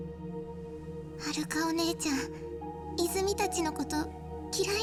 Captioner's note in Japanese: none